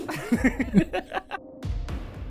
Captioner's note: laughter